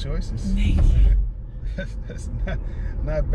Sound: laugh

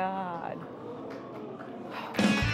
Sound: audience murmurs

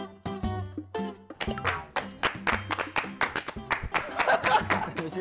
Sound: applause for his good acting

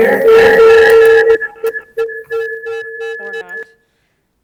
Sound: speaker screeching

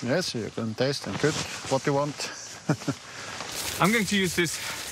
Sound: chuckles

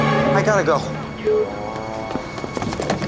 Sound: beep

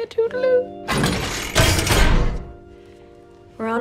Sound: portal clangs

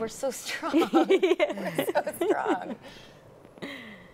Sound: laughs

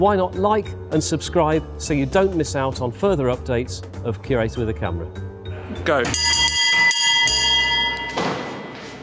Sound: bell rings

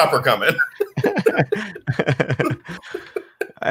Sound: both chuckle

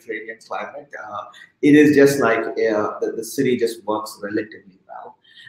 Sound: speaking softly

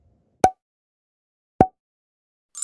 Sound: pop

